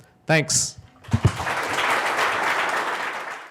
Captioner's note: audience applauds